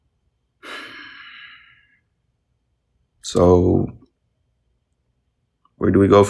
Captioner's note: sighs